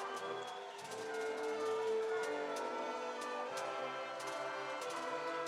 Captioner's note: crowd cheering and applauding